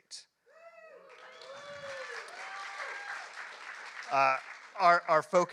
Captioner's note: applause